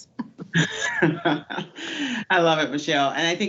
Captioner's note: laughs